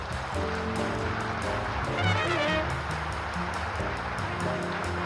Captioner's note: upbeat jazz music; audience applauding